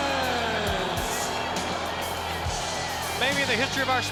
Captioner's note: spectators cheering; upbeat music